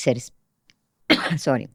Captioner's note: coughs